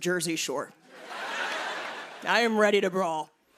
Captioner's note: laughter